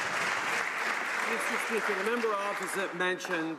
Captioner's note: some Applause